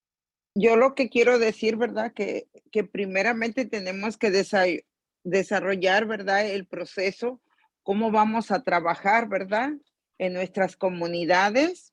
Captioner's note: in Spanish